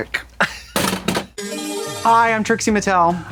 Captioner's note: Katya giggles; bright chime